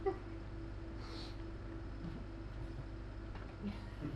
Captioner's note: Tom sniffs at Alfred